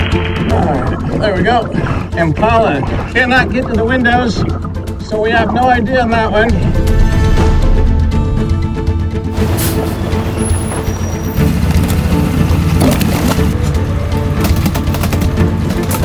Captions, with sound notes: All right, there we go. Impala. Cannot get to the windows so we have no idea on that one. (dramatic action music continues) (truck brakes hissing) (truck brakes squeaking) (water splashing)